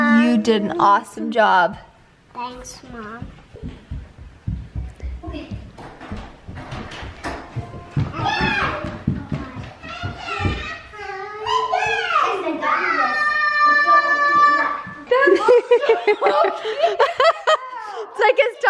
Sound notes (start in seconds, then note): 5.8 door clicks open; 8.6 kids squeal; 15.0 women laugh